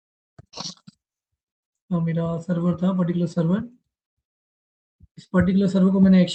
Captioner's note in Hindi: नाक से की जाने वाली आवाज़